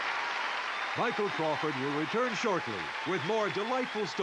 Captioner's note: applause